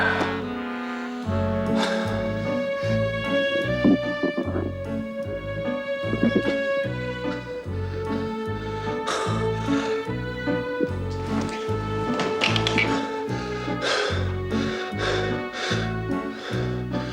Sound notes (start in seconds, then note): 4.0 stomach growls